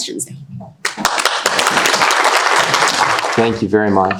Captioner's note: audience applauding